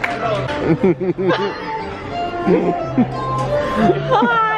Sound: laughter

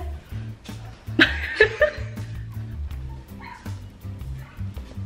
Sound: couldn't hold back her laughter

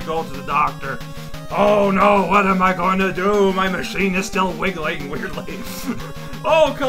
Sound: small laugh

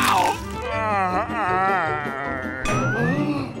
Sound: moaning

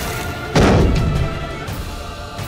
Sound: thud

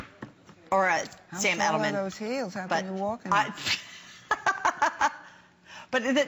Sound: laughter

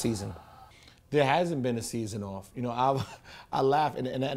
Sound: laughs

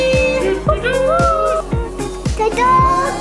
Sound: imitates trumpets

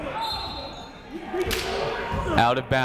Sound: whistle blowing

